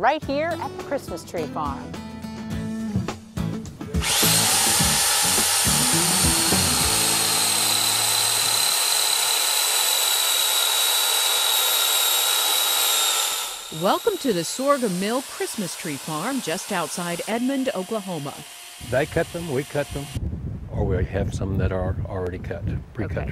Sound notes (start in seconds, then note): 1.7 cheerful music; 3.6 chainsaw whirring